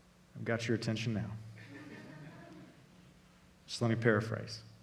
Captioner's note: congregation laughing